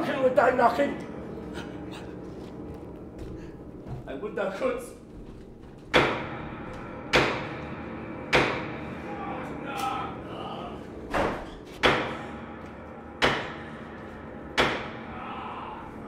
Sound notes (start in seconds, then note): 5.2 knocking